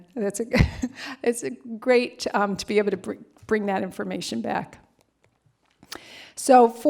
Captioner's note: laughter